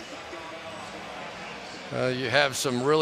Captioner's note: pa announcement